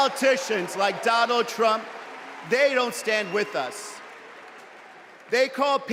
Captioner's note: cheers and applause